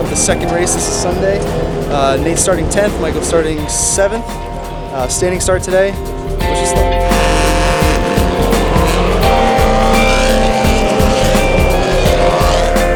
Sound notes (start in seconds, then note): 9.2 car engines rumbling